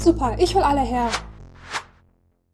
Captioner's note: whoosh